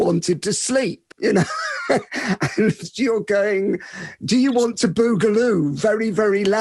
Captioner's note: laughs